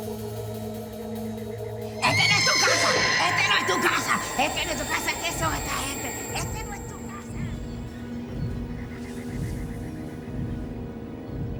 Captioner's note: shouting in spanish